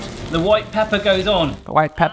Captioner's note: rice sizzling